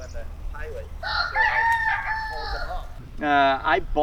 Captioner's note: rooster crows